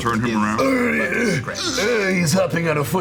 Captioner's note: groaning